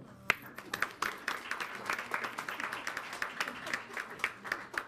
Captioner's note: audience clapping